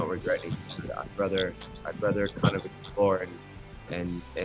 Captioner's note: audio breaks